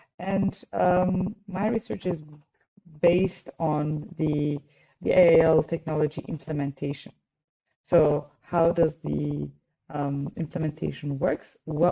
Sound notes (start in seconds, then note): none